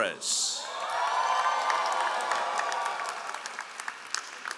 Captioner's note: all applauding